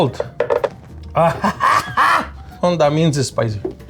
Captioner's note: coughing